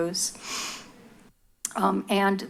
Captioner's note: sniffs